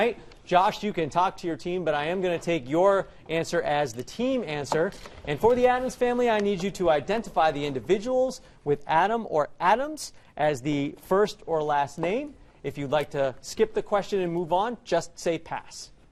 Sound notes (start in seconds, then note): none